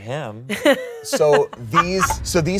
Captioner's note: laughs